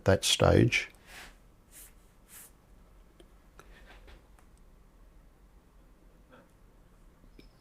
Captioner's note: silence